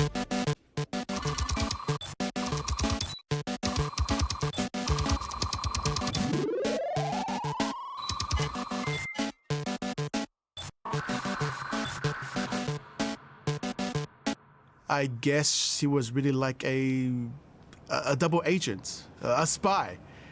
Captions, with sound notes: (playful electronic music) (text beeping) - I guess he was really like a, a, a double agent, a spy.